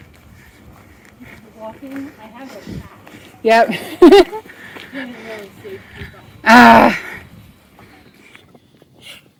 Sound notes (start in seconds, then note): 3.7 laughs; 6.4 sighs